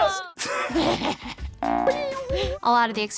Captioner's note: laughs